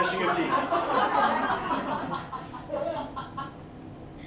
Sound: laughter

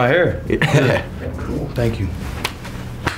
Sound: laughs

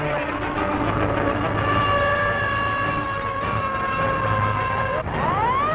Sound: fire truck sirens

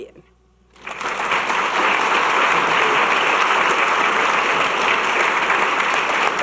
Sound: audience clapping

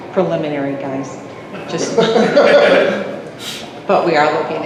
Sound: multiple STUDENTS and chuckle at joke

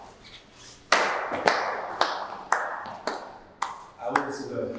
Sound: Isaiah clapping

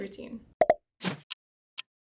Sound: bubbles popping; clock ticking

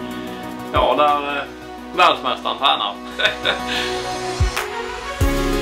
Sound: laughter

